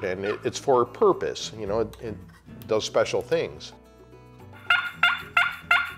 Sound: turkey call

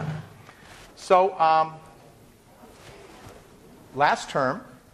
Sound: none

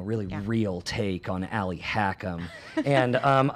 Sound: laughs

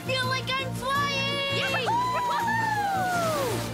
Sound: cheering

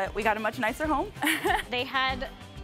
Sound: laughs

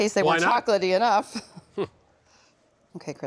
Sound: chuckling

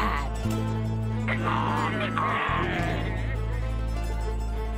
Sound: imitating donkey's hee-haw

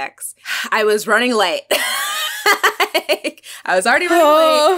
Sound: laughs

